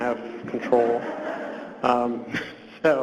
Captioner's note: audience laughs